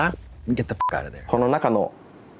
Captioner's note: beep